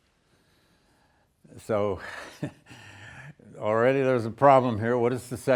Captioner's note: laughs